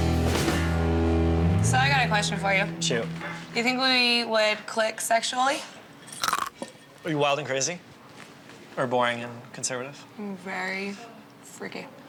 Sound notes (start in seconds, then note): 6.2 crunching